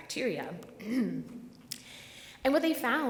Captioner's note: lecturer clears throat